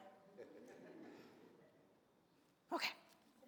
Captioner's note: audience laughs